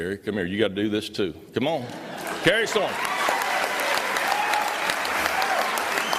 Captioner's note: applause